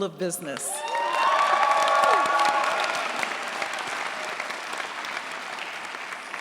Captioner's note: cheers, applause